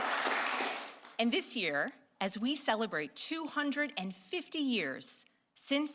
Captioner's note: applause